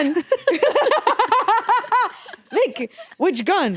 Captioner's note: both laughing